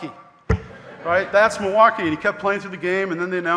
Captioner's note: audience laughing